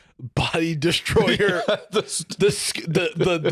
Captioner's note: both laughing, stammering